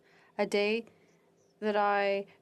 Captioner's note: speaking French